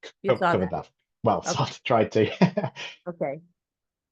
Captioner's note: chuckles